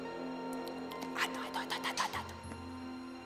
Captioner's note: whispers